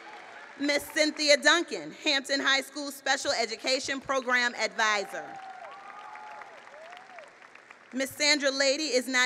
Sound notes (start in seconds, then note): 5.0 applause